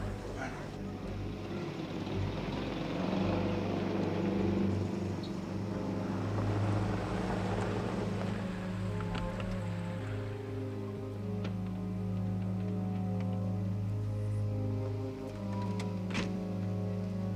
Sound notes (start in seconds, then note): 1.3 vehicle approaching